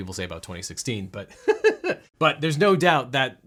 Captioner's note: laughs